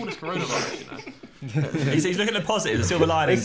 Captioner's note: laughing